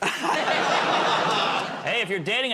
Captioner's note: laughter